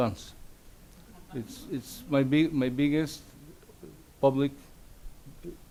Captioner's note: audience laughs